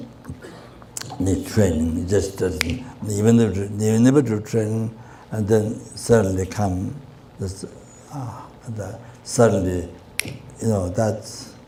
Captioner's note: snaps his fingers